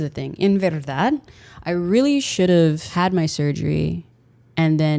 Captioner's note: foreign language